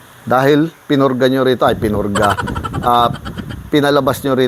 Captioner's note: laugh